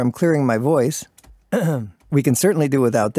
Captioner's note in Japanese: 咳払い